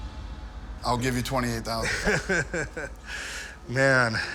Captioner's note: laughs